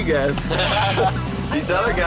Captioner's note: lalaugughthterer